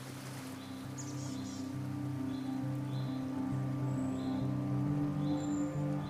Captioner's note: birds chirping